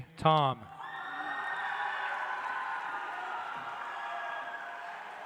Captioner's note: audience applauds